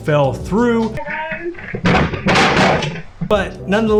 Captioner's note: desk banging on floor